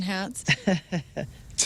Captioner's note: laughing